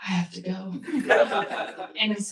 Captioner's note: laughter